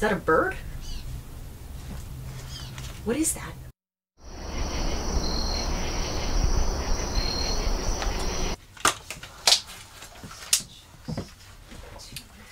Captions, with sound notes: - Is that a bird? What is that? (birds squawking) (insects chirping) (paper rustling)